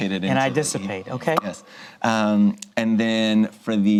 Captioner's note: pops lips